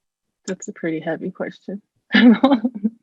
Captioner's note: chuckles